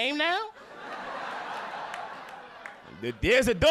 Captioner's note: audience laughing